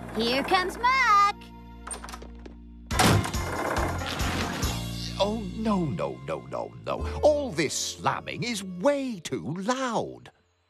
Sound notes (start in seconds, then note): 2.9 door Slams